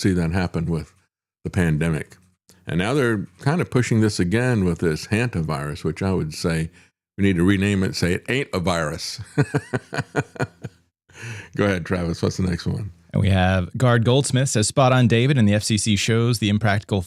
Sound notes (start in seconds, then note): 9.2 laughs